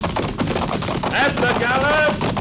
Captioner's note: gunfire